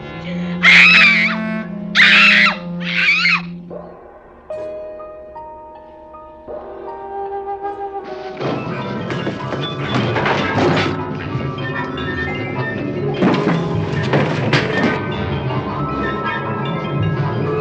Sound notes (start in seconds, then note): 0.6 screaming; 10.6 crash